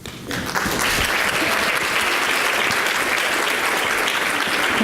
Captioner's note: audience applauds